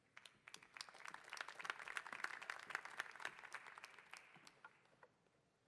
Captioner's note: applause